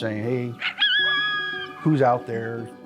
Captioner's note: coyote yipping